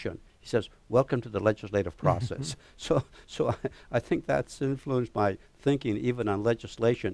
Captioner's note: laugh